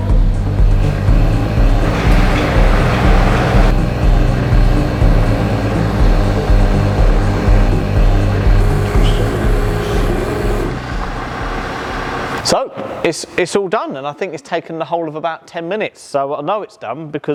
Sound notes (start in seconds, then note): 0.7 machine buzzing